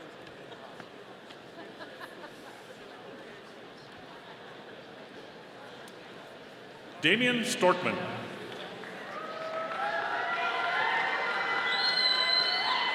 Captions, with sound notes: Damion Storckman. (audience applauding)